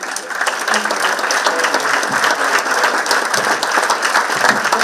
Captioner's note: participants clapping; participants clapping drowns out speaker